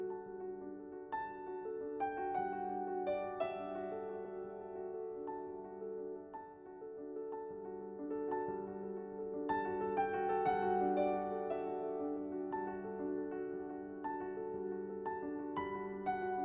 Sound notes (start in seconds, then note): none